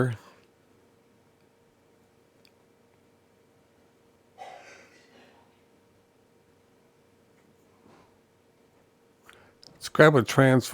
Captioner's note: silence